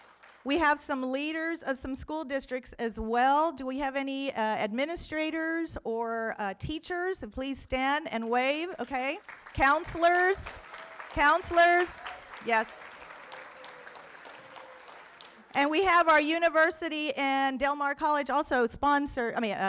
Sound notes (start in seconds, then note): 13.1 room applauds